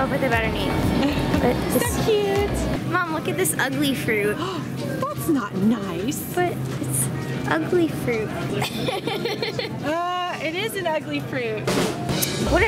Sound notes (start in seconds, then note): 5.0 gasps; 8.5 laughs